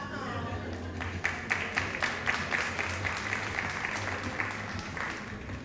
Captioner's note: audience applauding